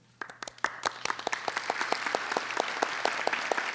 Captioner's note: applauding